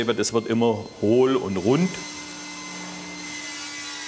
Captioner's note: screeching saws